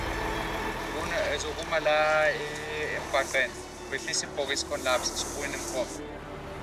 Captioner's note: man speaks in a foreign language